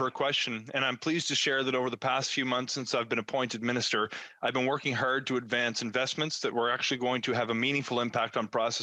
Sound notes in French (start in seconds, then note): 1.6 voix de l'interprète